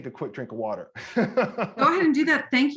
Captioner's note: laughing